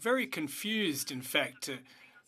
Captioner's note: speaking French